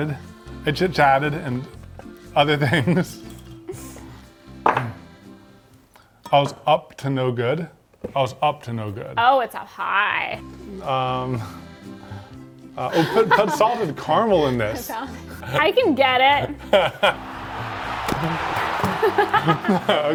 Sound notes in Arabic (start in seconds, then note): 16.6 يضحك; 17.0 الجمهور يهتف